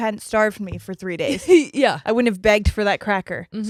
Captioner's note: chuckles